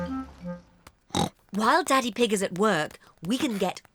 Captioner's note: oinks